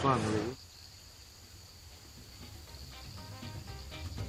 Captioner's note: crickets chirping